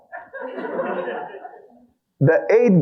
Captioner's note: audience laughing